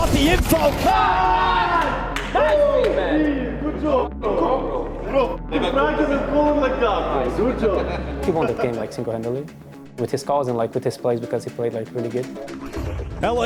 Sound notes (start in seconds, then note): 0.5 group cheering; 4.1 people chattering indistinctly